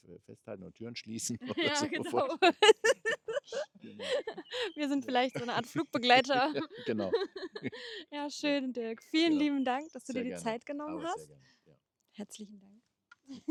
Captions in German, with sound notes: Festhalten und Türen schließen. [gelächter] [japst] Wir sind vielleicht so eine Art Flugbegleiter. Genau. [gelächter] Ja. Schön. Dirk. Vielen lieben Dank, dass du dir die Zeit genommen hast. Herzlichen Dank. [gelächter]